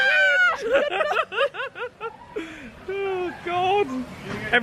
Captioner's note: laughs